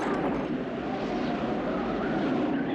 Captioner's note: wind howling